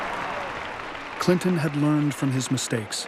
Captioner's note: applause